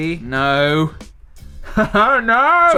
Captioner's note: laugh